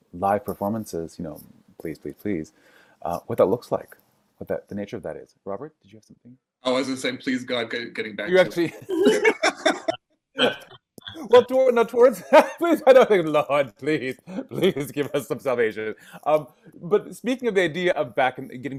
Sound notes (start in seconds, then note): 8.6 laughing; 10.4 chattering